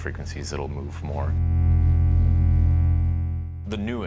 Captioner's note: low-frequency tone